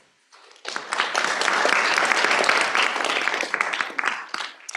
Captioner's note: applause